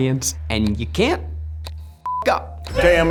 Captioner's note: beep